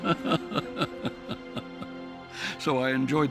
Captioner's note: laughing